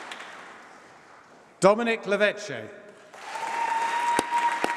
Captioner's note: applause